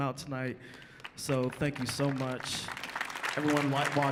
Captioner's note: audience applauds